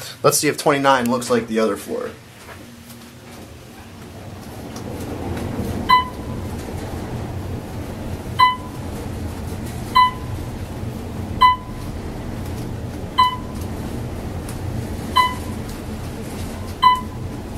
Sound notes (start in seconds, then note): 2.2 elevator hums; 3.6 Otis audible signal chimes